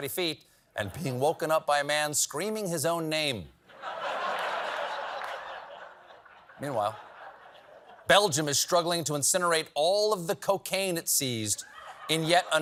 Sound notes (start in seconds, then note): 3.7 laughter